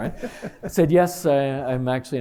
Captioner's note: laughter